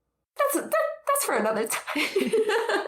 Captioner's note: both laughing